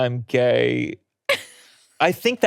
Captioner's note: laughing